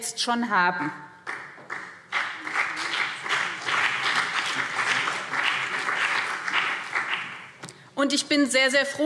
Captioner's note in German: Beifall BÜNDNIS 90/DIE GRÜNEN und vereinzelt CDU